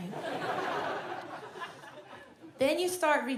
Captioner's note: audience laughs